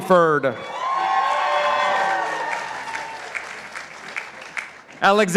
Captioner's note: participants applauding